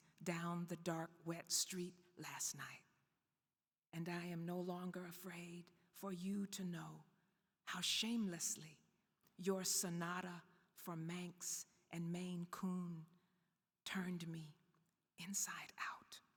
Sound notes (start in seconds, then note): none